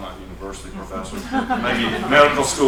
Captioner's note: laughter